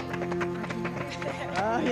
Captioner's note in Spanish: aplausos